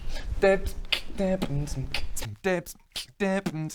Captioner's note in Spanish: aún más beatboxing